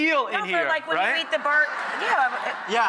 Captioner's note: audience laughs